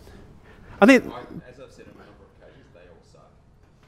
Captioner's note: voiceover